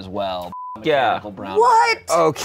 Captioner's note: beep